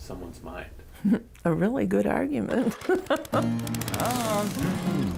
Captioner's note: laughs